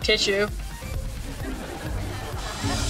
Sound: laughing

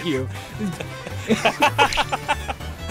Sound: laughing

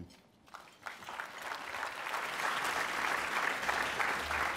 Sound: applause

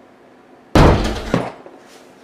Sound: loud bang noise

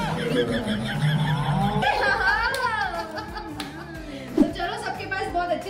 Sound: applause

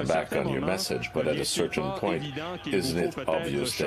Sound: speaking French

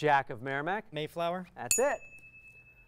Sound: ding

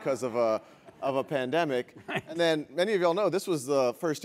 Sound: laugh

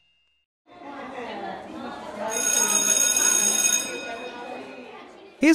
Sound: bell ringing over children chattering

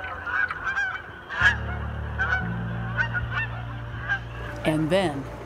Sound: water trickling; geese honking

